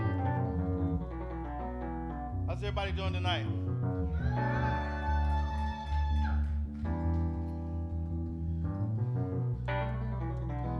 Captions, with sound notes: How's everybody doing tonight? (audience applauding) (audience cheering) (soulful music)